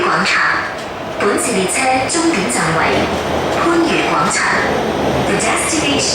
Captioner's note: Cantonese